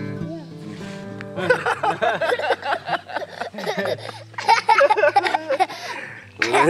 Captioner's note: joyful laughter